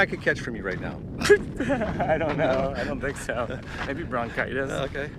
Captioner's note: laughs